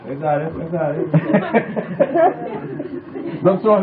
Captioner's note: laughter